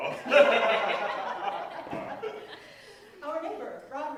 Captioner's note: laughter